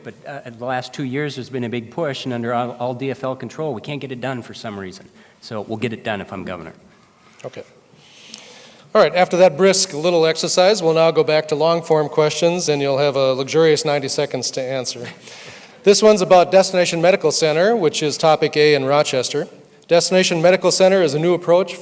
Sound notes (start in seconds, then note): 14.9 laughs